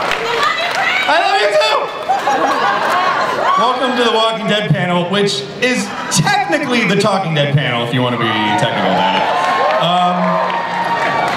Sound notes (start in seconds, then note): 2.0 audience laughs; 9.3 audience cheers